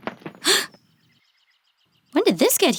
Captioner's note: gasps